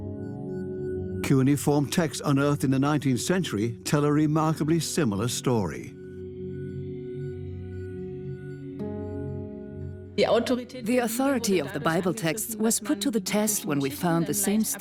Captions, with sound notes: Cuneiform texts unearthed in the 19th century tell a remarkably similar story. (in German) (dubbed in English) The Bible texts' authority was tested when we found